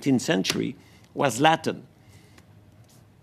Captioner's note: speaking French